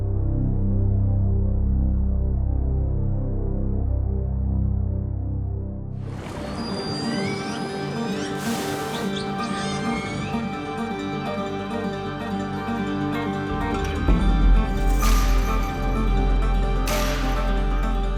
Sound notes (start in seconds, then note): 7.6 splashing and spouting; 10.2 driving guitar music